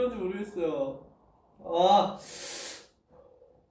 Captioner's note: breathes